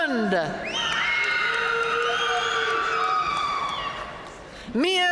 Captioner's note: audience cheering and applauding